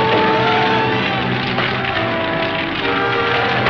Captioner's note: groaning; dramatic music; fire cracking